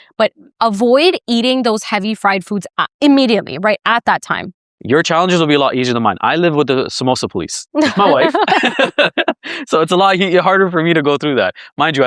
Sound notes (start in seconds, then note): 7.8 laughs